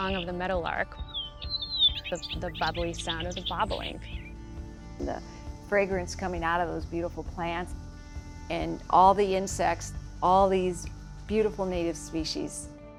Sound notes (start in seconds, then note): 0.0 bird singing; 2.9 birds singing